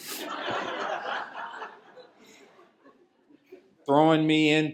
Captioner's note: laughter